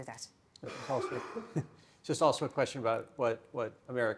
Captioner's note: chuckles